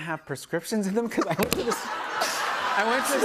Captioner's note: laughter